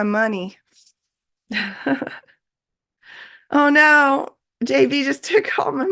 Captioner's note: laughs